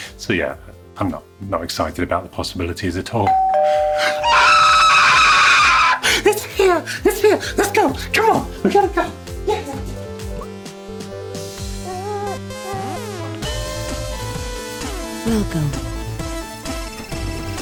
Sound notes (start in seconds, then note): 3.2 doorbell ringing; 4.0 screaming; 12.5 upbeat music